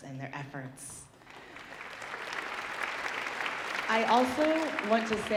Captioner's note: audience applauding